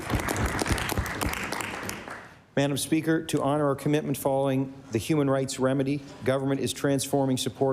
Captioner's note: applause